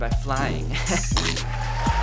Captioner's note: chewing noise